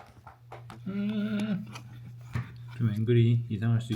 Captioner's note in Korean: 먹을 생각에 절로 나오는 콧노래